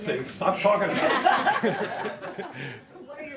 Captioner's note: laughter